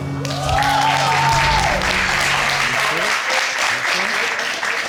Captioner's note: audience cheering and applauding